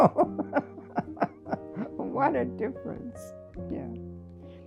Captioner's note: laughter